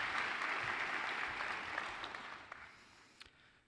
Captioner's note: applause